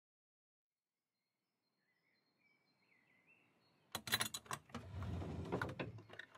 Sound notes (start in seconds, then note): 1.4 suburban birds chirping outside; 4.0 dresser drawer opening